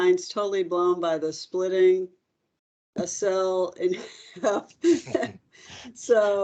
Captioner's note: chuckles